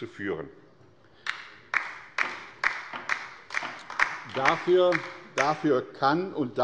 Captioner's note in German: Beifall bei der LINKEN